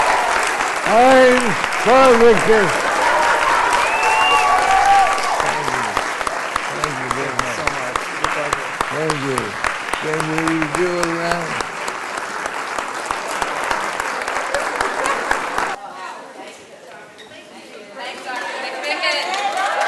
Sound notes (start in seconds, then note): 3.9 applause; 10.1 cheering and applause; 15.0 applause